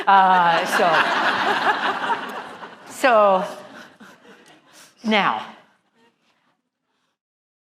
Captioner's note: laugh